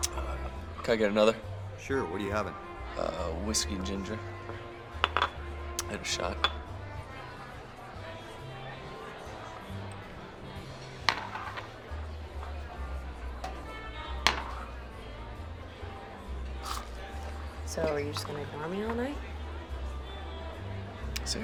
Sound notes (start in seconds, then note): 5.0 glass clanking; 7.0 crowd chattering over pleasant big band music